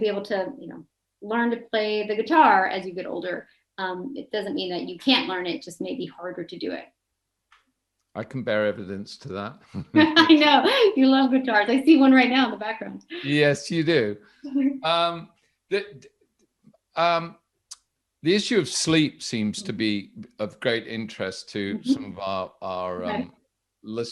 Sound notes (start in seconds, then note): 8.2 both laughing